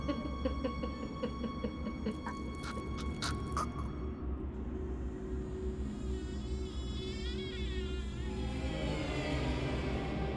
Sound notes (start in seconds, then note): 2.0 Sophia chokes; 8.2 ominous music